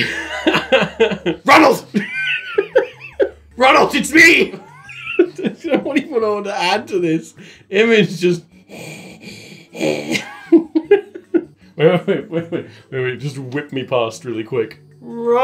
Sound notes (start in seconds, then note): 0.0 laughing; 8.4 labored breathing; 9.7 laughing